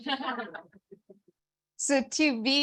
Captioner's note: audience laughing